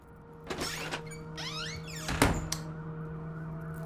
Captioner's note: door squeaks; sirens